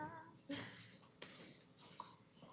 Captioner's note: chuckles